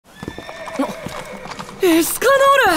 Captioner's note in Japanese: いななき